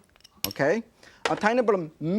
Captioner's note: spoon clanking